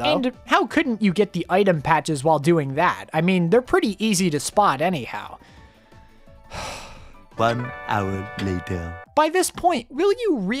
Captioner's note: sigh